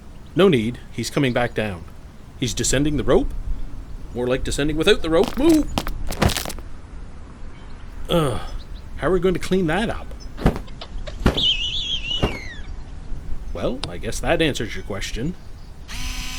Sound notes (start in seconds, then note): 10.8 bird cawing; 10.8 wings flapping